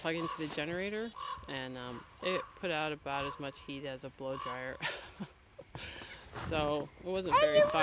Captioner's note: laughs